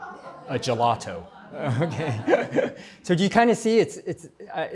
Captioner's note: laughter